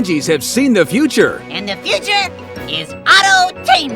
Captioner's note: none